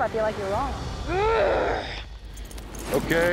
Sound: grunting

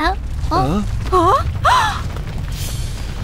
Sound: gasps

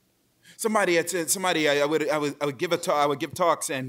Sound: stammers

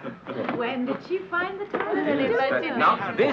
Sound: group chattering

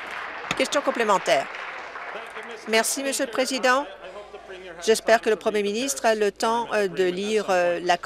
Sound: applause

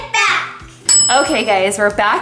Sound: bell rings

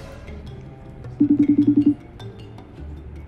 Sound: ringing continues

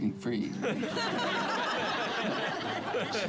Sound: laughing

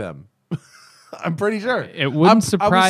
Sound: laughter

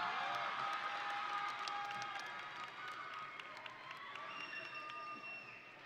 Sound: audience and graduates cheering

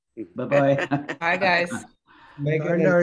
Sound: laughs

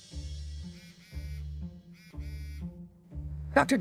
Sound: phone buzzing

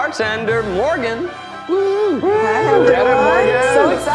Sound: cheering

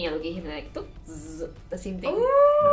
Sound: sparks sound

